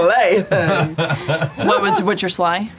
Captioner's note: laughs